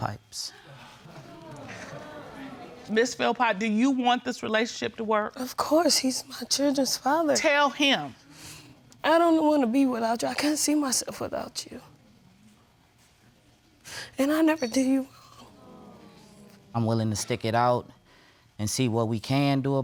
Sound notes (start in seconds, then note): 0.6 crowd muttering